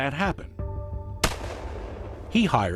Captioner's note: gunshot